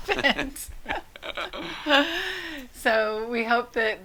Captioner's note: couple laughs